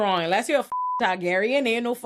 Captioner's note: beep